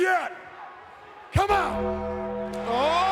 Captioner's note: applause